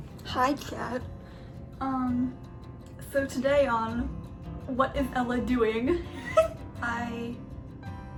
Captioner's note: laughs